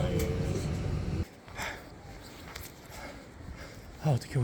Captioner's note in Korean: 거친 숨소리